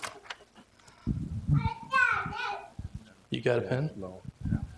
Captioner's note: child brabbles